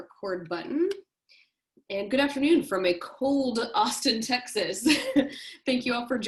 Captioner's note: laughter